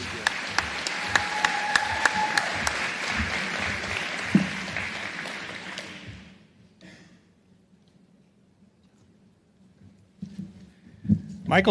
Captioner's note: applause